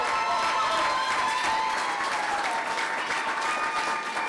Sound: clapping

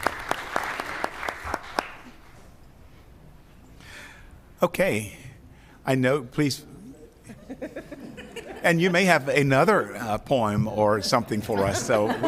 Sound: applause

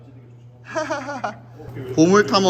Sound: laughing

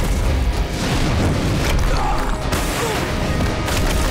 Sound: grunting

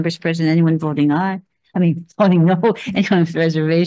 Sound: laughs

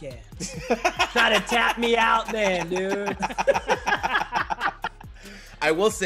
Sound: laugh

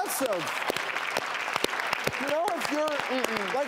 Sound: audience applauds

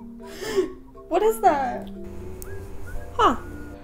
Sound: gasps

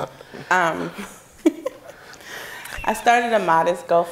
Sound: laughing

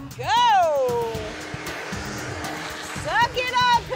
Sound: vacuum whirring

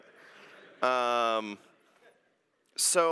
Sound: laughter

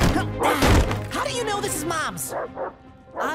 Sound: panting; thud; dog snarls

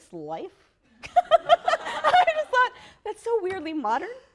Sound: laughter

